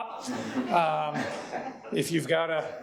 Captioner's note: audience laughing